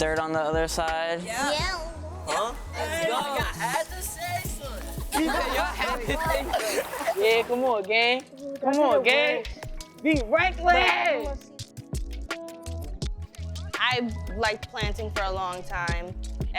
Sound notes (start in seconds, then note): 2.2 students vocally affirm; 7.0 students laughing; 12.1 upbeat music